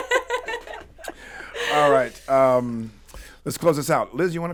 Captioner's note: laughs